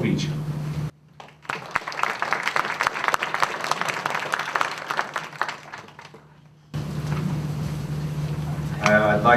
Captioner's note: applause